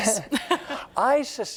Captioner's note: laughs